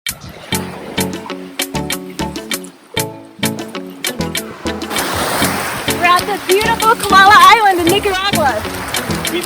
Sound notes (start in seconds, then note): 0.2 soothing music; 5.0 water sloshing